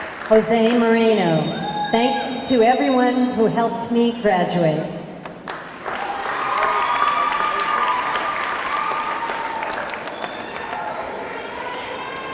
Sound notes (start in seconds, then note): 0.0 audience cheering; 0.0 audience clapping; 5.4 audience clapping; 5.8 audience cheering